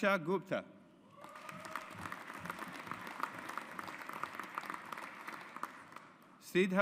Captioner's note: audience applauds